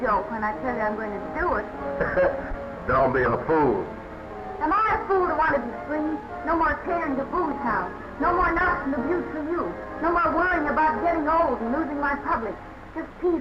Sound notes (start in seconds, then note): 2.0 chuckling